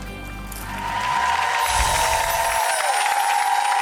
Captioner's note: applause